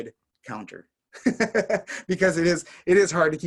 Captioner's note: laughing